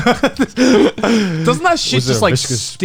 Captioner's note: laughs